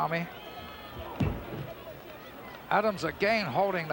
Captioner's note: body thuds